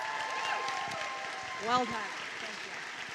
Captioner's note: applause